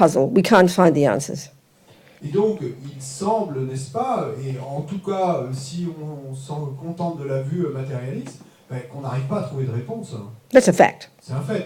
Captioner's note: French